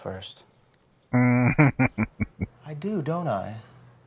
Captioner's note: chuckling